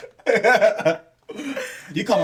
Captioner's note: laughing